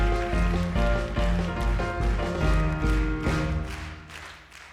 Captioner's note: audience claps along to song